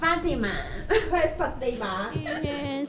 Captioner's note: Cantonese